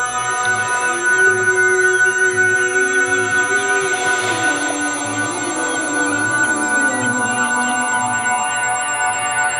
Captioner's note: frantic electronic sounds